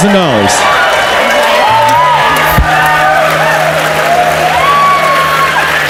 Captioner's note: audience cheers and applauds